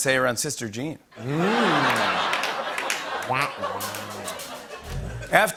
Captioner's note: laughter